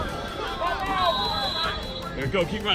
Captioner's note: whistle